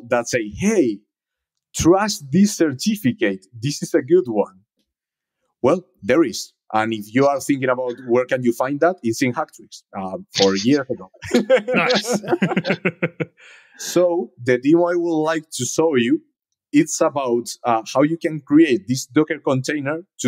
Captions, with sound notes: that say, hey, trust this certificate, this is a good one. Well, there is, and if you are thinking about where can you find that, it's in Hack Tricks, four years ago. (group laughs) - Nice. - So, the deal I would like to show you, it's about how you can create this docker container